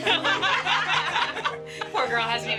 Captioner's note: all laughing